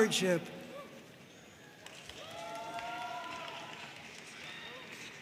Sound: audience cheering and applauding

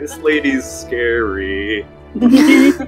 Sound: laughter

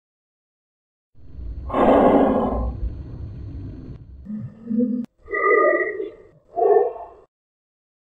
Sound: sound of creepy breath

